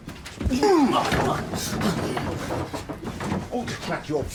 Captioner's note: Malcolm grunts